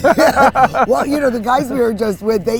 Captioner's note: laughing